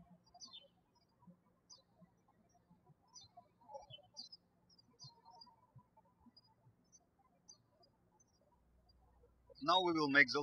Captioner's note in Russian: птички щебечут